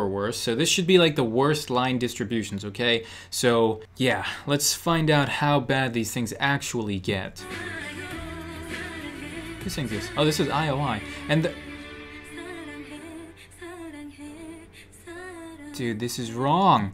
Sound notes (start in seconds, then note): 11.0 gapes